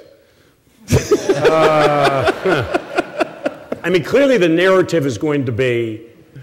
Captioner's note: laughter